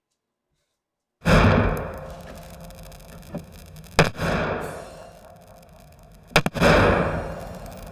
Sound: loud thumping; ominous music

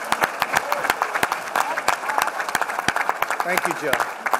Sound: applause

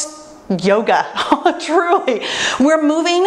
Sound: laughs

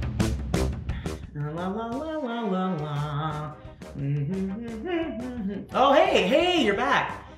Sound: humming do-re-mi

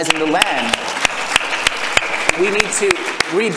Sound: audience applause

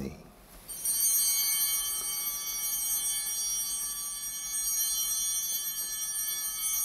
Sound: bell ringing

